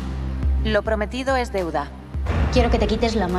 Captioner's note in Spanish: voz de mujer